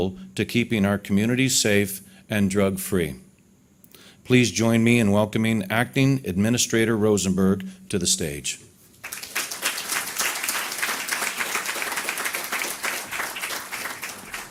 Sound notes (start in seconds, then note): 9.0 audience clapping